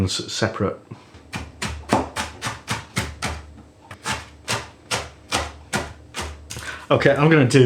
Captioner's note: chop chop chop. choppy choppy chop chop. chop